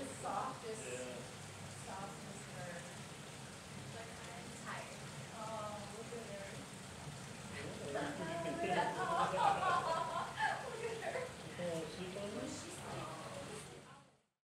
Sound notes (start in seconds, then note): 7.6 laughing